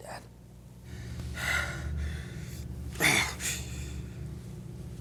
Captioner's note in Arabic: زفير عميق ثم يئن